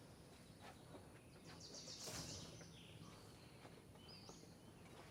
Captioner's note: birds chirping